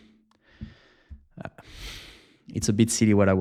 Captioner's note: exhales